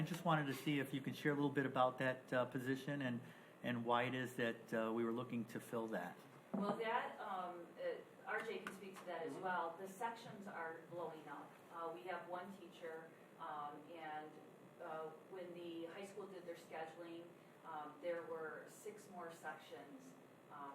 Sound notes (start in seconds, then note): none